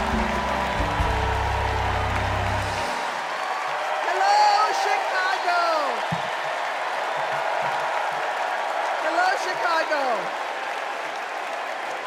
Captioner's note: cheers and applause